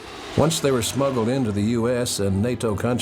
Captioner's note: plane engine roaring